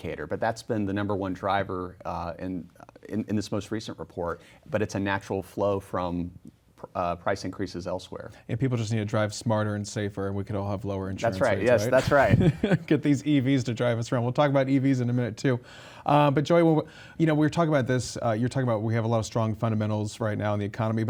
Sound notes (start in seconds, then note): 11.6 laughs